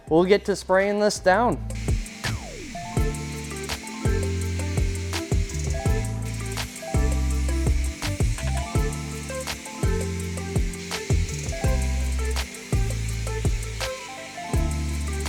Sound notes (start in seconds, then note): 2.8 upbeat music; 2.8 water spraying